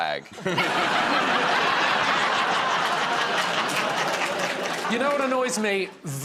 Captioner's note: laughter